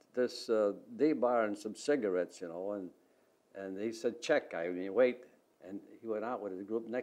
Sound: Russian

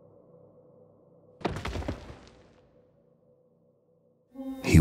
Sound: thudding

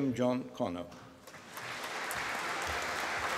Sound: applause

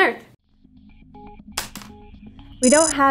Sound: pencil hitting desk

